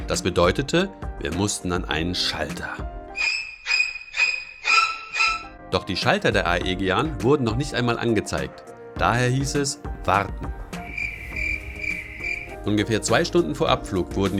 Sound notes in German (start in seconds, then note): 3.1 Gruselige Musik; 10.7 Geräusche von Grillen